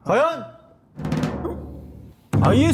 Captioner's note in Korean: 두근